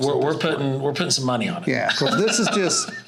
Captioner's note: laughs